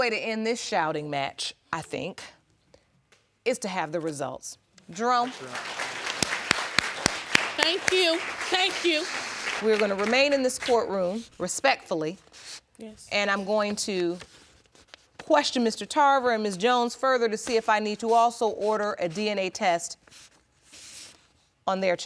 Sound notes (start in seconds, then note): 6.4 audience applauding